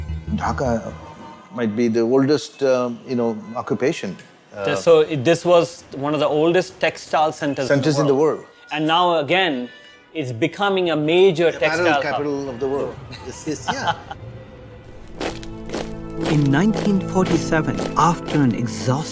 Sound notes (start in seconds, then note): 15.0 footsteps thudding